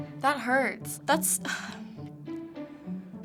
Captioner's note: sighs